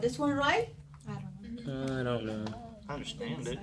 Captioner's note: students murmur